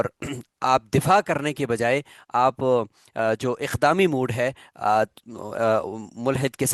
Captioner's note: throat clearing